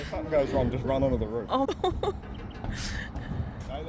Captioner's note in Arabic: ضحكات عصبية